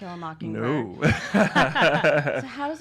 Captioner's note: laughs